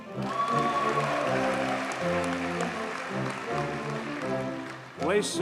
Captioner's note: audience cheers and applauds